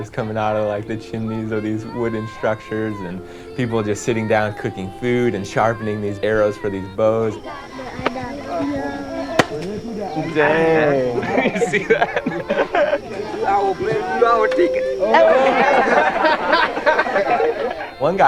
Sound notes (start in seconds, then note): 7.7 speaking in foreign language; 13.0 speaking in foreign language; 15.5 laughing